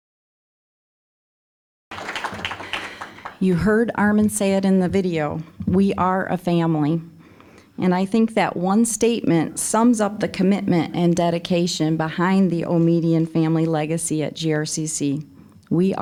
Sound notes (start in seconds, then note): 1.9 applause